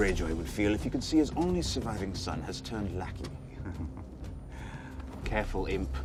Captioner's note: chuckles